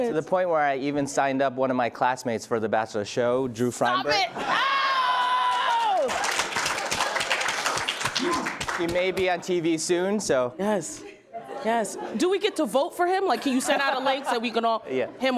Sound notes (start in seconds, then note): 4.7 laughs loudly; 5.2 applauding